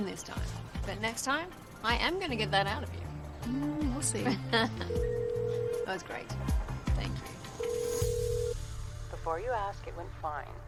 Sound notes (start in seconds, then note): 4.3 laughs, cell phone rings